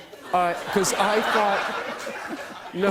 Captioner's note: laughter